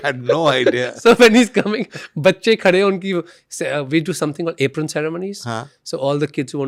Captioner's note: chuckles